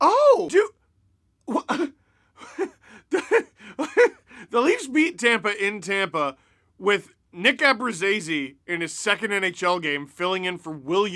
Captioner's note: laughs